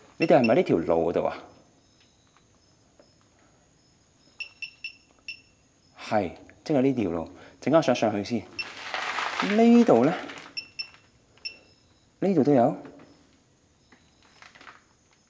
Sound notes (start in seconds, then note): 3.8 beep beep beep; 4.2 beep; 8.6 beep; 10.5 beep